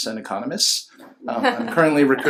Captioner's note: laughs